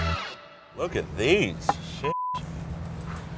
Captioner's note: beep